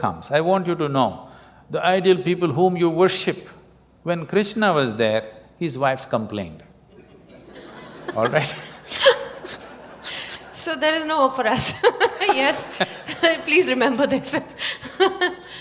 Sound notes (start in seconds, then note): 6.9 laughter; 14.3 laughter